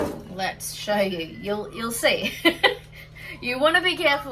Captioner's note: laughs